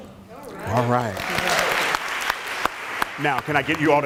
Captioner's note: applause